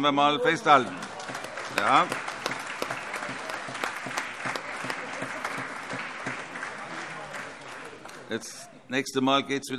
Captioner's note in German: Beifall